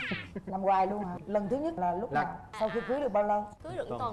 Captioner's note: laugh